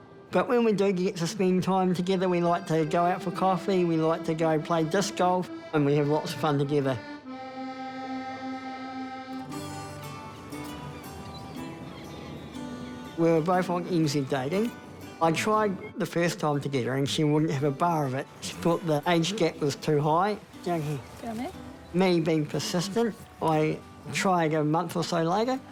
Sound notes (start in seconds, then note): 9.5 uplifting guitar music; 11.7 seabirds squawk